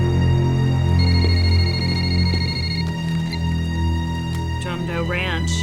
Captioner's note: phone ringing